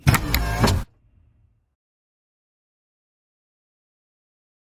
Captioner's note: popup headlight motor sound